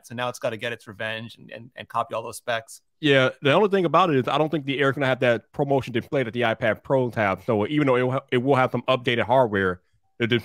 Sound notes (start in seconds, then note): none